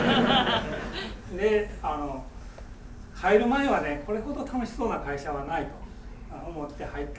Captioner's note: students laughing; speaking in foreign language